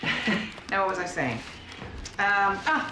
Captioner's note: laughs